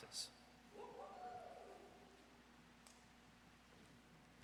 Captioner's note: audience cheers